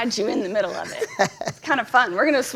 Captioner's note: laughs